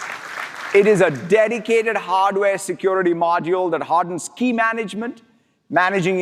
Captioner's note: applause